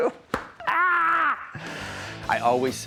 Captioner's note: scream